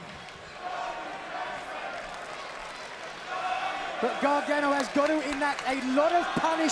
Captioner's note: crowd cheering